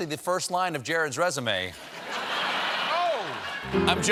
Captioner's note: laughter